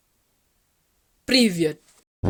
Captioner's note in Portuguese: em russo